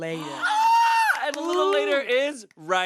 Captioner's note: squeals